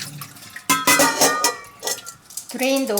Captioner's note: bowls clanging